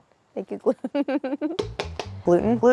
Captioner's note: Claire chuckles